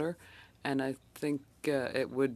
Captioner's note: speaking French